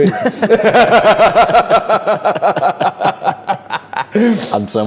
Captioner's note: both laughing